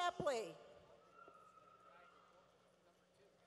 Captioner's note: none